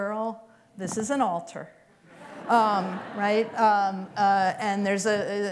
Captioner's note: laughter